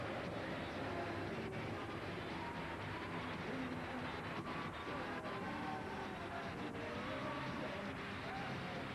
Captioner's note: applause